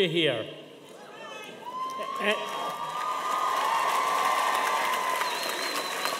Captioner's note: audience cheering and applauding